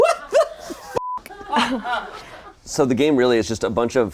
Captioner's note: beep; people laughing